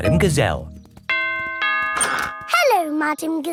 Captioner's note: doorbell rings